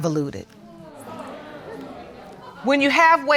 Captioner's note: audience exclaiming